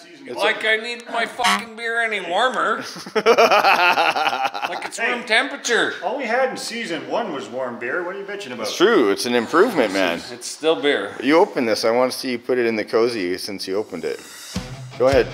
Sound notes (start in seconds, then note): 2.8 laughing